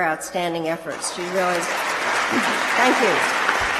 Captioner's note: applause